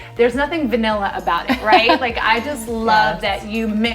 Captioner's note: laughs